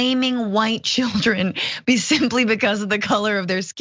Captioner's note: laugh